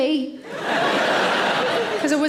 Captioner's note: audience laughing